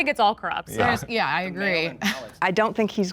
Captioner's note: laughs